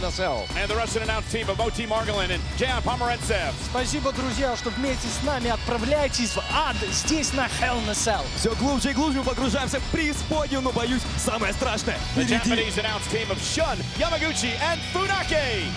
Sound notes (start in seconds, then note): 3.8 speaking in Russian; 8.4 speaking in Russian